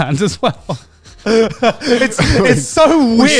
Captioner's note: laughing